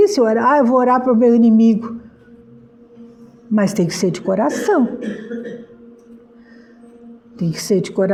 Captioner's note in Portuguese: limpando a garganta